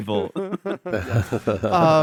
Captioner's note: laughs